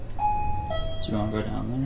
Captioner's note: detector ticking